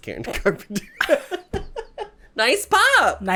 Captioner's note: giggles